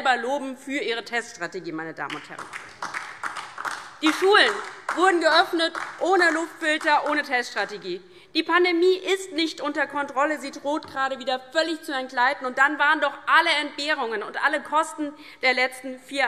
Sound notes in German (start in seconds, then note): 3.9 Beifall DIE LINKE und vereinzelt SPD